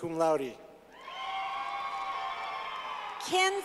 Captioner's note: clapping